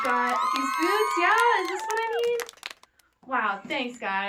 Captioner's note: kids cheer; kids clap and cheer